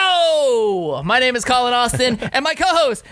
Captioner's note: laughing